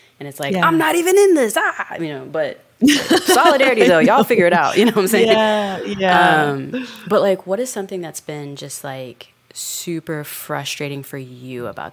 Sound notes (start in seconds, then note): 2.8 Franchesca laughing